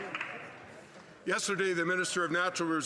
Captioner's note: applause